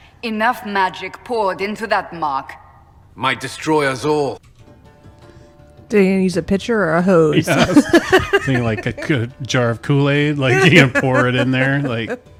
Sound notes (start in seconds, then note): 7.4 laughs